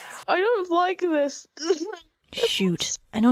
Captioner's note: whispering abruptly stops